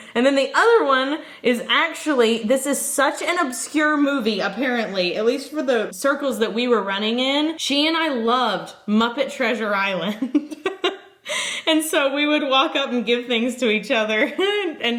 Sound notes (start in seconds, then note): 10.1 giggles